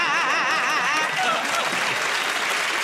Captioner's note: laughter and applause